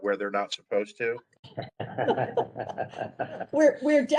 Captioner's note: laughter